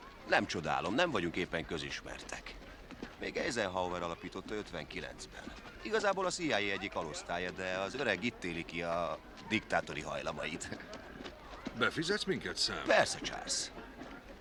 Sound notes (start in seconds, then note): none